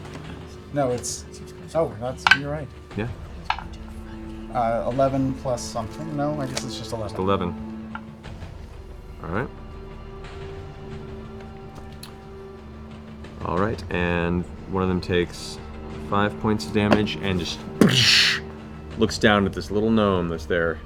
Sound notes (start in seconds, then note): 17.8 impact sound